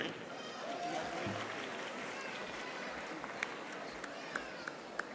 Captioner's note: audience applauding